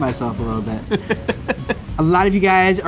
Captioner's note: chuckles